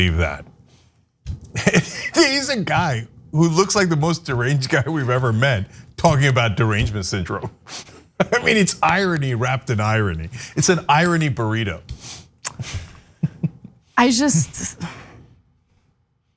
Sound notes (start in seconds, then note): 1.5 laugh; 7.2 laugh; 13.1 laugh